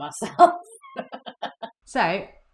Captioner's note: chuckles